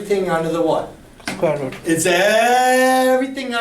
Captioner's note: voiceover